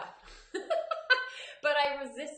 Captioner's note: laughing